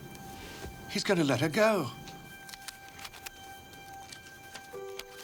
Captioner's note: feet shuffling